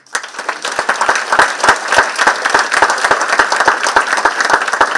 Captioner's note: participants clapping